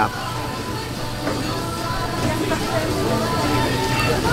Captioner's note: diners talking